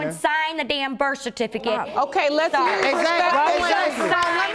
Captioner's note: audience applauding